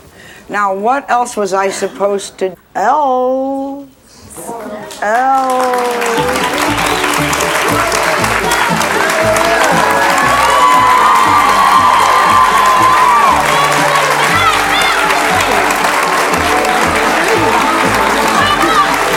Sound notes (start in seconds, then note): 6.3 audience cheers; 6.3 joyful music